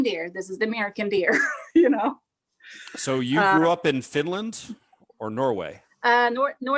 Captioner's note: chuckles